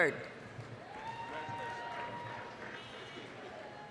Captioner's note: applause, cheering